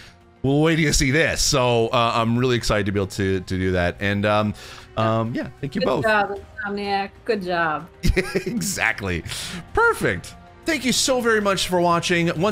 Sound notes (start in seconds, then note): 8.0 laughs